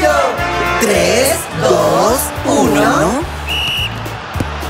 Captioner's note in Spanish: Sonido de silbato